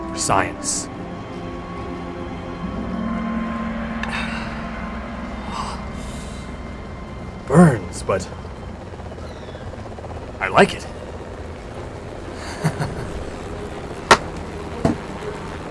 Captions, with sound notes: For science. Burns, but I like it. (laughs)